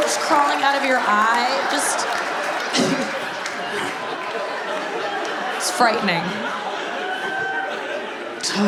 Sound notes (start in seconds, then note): 2.9 audience laughs; 4.3 scoffs